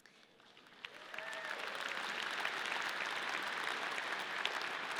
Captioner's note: audience cheering